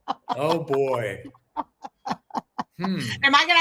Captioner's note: laughs hysterically